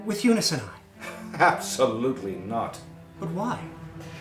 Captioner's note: laughing